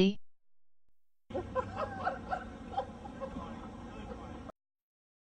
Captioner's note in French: homme riant